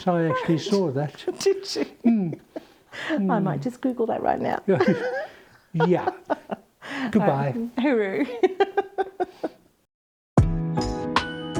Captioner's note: laughter, music